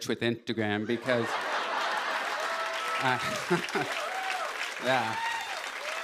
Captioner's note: laughter, cheers, applause